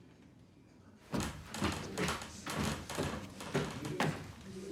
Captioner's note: sound of walking down stairs